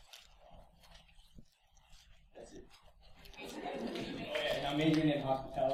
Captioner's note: background chatter